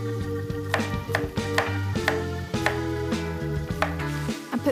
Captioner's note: knife tapping